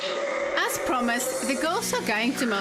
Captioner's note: narrating